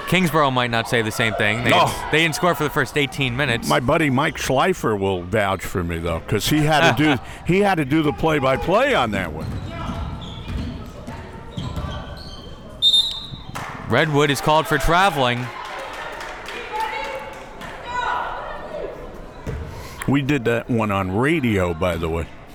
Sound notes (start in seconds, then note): 12.8 whistle tweeting; 15.9 crowd members shouting